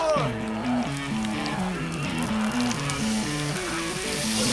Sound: hair sizzling

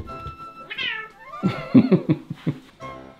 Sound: laughs

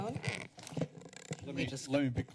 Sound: mic noise

